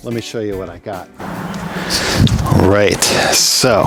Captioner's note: air whooshing